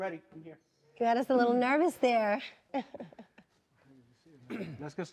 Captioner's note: laughing